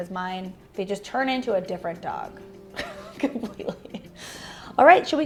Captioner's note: laughs